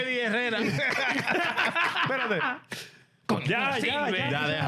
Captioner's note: laughter; speaking In Japanese